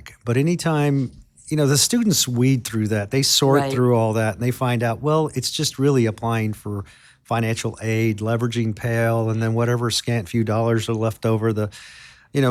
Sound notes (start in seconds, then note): none